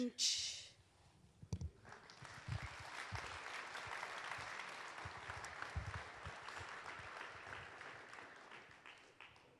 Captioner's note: applause